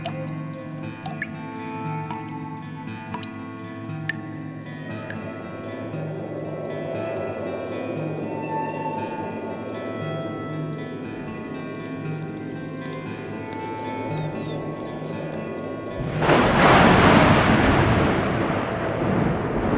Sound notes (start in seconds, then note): 0.0 water dripping continues; 9.6 mysterious music continues; 16.0 thunder crashing